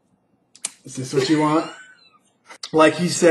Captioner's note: laughs